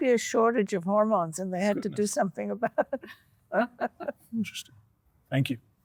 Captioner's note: chuckles